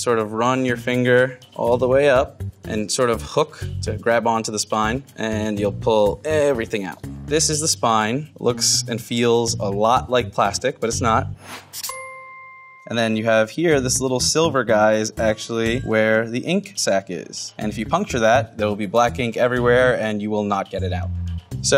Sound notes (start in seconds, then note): 11.8 dinging